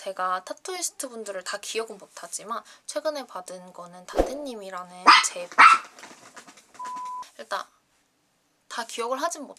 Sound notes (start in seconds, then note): 5.0 OH, a barking dog